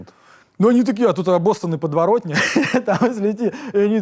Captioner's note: laughs